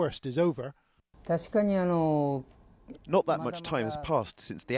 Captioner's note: through translator